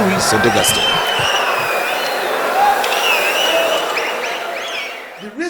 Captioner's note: wild applause and cheering for 22 seconds